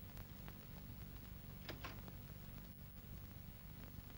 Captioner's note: doorknob rattles